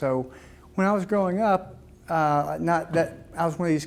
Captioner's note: none